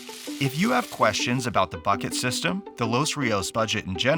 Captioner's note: paper rustling